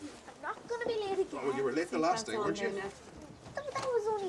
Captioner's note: indistinct chatter